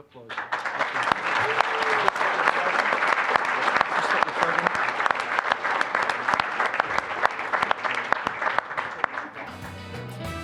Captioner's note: applause; upbeat Latin music